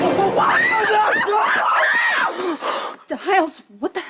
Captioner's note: screaming